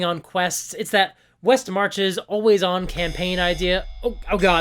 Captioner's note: alarm